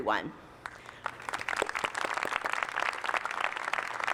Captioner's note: applause